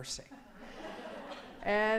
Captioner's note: laughing